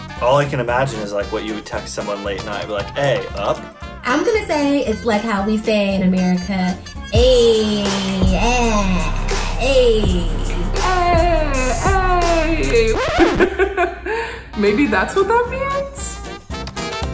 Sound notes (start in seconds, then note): 10.6 record scratches